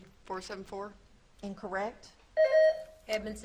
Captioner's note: buzzer beeps